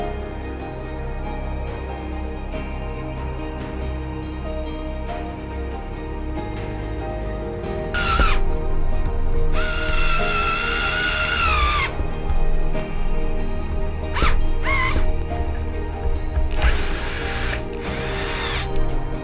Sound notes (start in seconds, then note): 9.5 screwdriver whirring; 12.0 gentle music continues